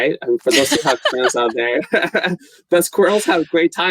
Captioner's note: laughter drowns out speaker